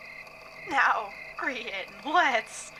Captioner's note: sounding slightly panicked